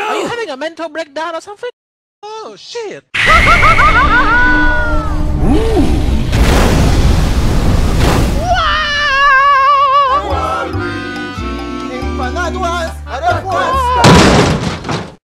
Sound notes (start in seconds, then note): 8.4 Mario screams